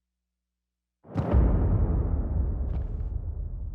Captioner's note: thuds